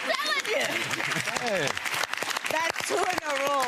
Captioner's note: audience applauds